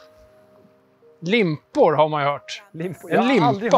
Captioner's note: in Swedish